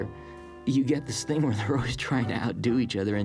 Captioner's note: chuckling